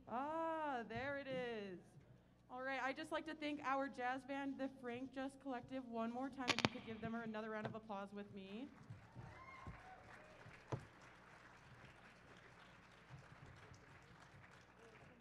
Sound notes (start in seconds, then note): 8.8 applause